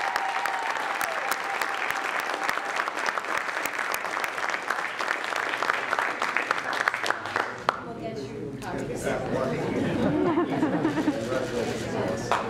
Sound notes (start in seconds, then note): 0.0 applause